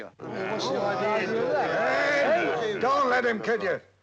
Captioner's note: people chattering